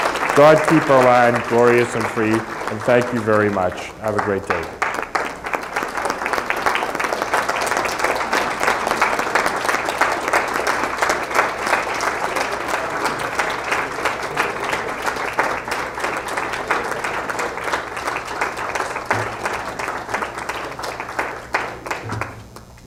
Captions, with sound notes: God, keep our land glorious and free. And than you very much. Have a great day. [Applause]